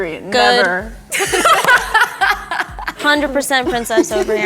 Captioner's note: all laughing